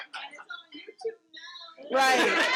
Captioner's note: participants laughing; murmuring; participants laughing